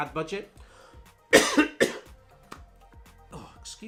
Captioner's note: coughs